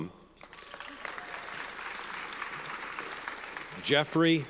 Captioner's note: audience applauds